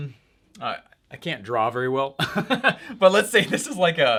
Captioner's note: laughs